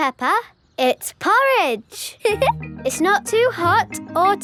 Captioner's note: giggles